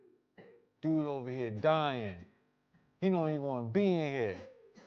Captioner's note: man coughing